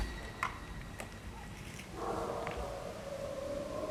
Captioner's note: dogs barking